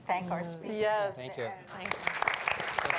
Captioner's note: applause